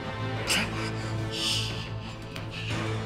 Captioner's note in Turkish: Nefes sesi